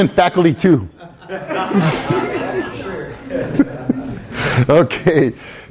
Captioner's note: everyone laughs